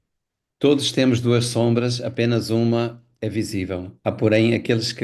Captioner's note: Mia speaking in Portuguese